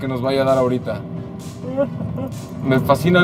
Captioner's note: giggles